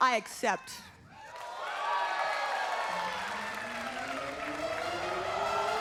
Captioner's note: crowd exclaims